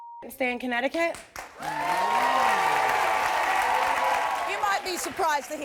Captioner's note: audience applauding and cheering